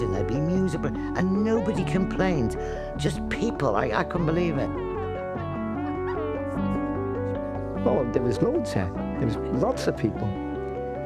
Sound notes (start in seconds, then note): 5.8 laughter, chatter